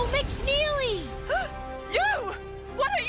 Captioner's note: gasp